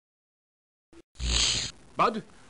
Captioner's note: fizzle